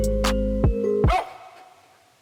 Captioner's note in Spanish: ladrido